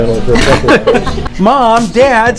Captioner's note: laughter